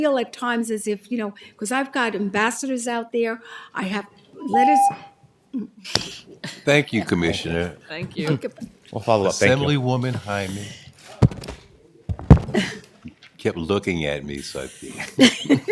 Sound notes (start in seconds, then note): 6.1 tone; 14.7 laughter